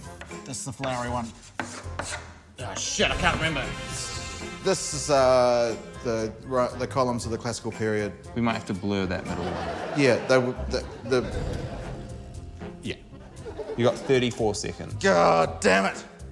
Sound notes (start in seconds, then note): 11.9 stammers